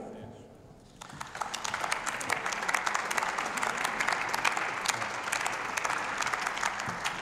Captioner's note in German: Beifall bei der CDU/CSU sowie bei Abgeordneten der AfD